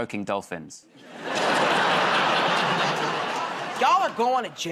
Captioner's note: laughter